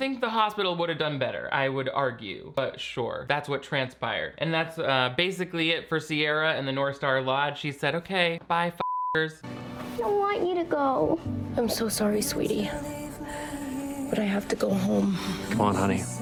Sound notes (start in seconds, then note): 8.8 beep